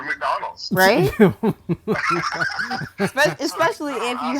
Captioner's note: laughing